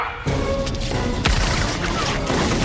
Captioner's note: gunfire